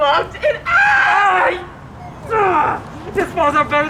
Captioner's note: celebrating